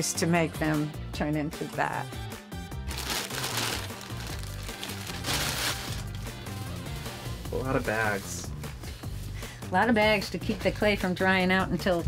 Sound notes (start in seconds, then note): 2.8 plastic crinkling